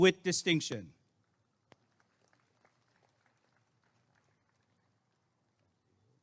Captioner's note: applause and cheering